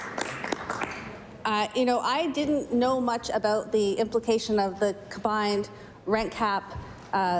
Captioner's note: applause